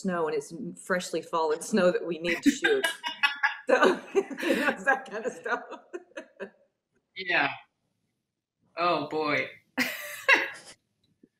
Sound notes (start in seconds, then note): 2.3 all laughing; 10.0 laughs